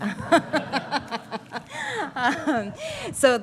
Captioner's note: laughter